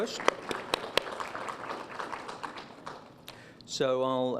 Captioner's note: applause